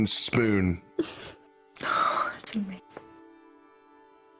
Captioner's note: whispered